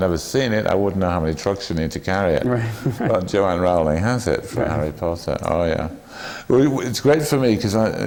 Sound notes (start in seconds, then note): 2.4 laughs